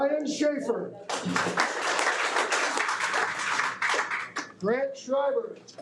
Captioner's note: audience applauding